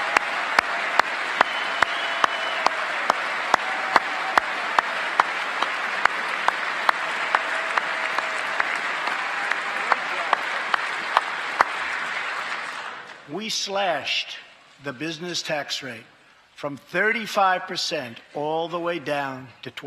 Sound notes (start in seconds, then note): 0.0 cheers and applause; 3.1 applause